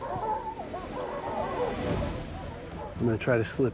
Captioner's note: barking continues